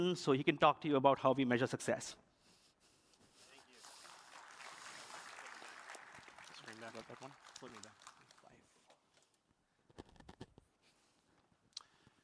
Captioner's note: applause